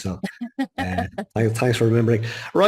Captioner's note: laughing